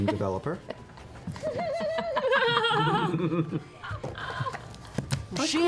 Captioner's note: laughter